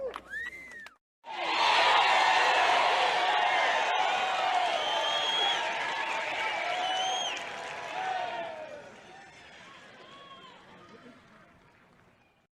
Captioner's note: cheering